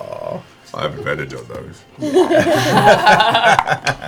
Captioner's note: laughter